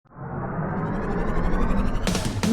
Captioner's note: engine whirring